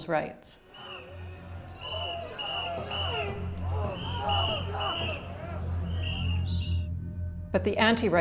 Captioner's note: crowds chanting, blowing whistles and airhorns